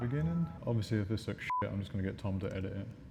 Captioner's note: beep